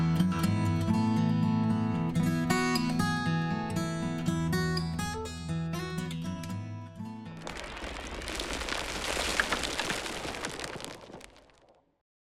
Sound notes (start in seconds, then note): 7.3 tumbling rocks